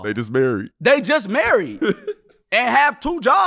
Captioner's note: laughing